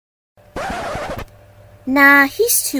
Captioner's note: record scratch